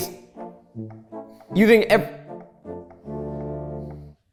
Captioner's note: stammering